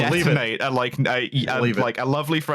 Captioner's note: stammers